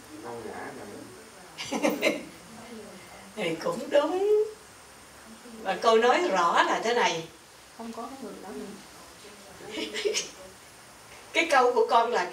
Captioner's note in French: Rires